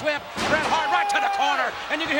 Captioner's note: body thumps